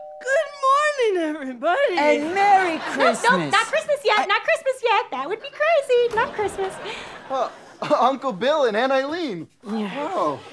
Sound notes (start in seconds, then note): 6.0 door opens